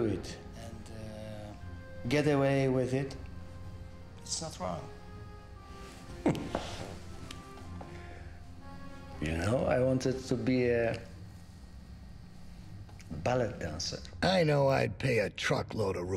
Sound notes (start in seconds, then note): 6.1 chuckles